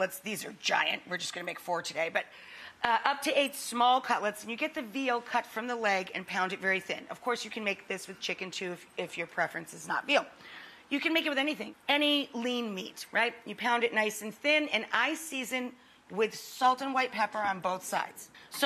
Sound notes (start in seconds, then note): none